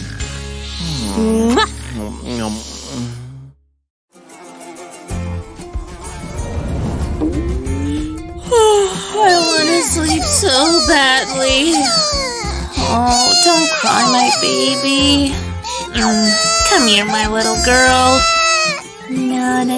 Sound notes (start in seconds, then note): 3.8 yawning